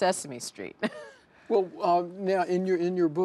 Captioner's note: laughs